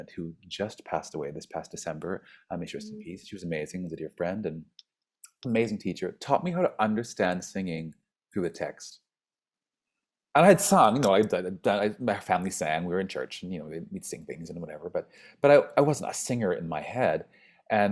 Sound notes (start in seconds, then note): 11.6 stammers